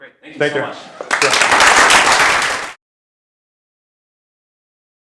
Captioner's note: applause